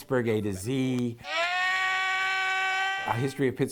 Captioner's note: man yelling